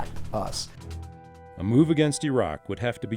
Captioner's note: voiceover